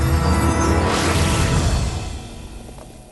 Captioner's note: explosion